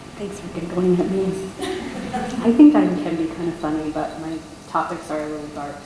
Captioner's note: laughter